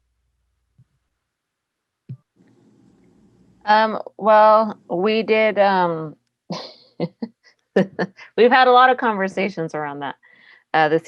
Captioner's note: laughs